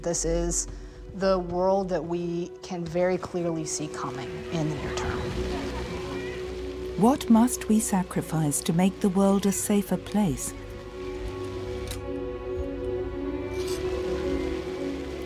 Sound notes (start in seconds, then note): 4.8 children laughing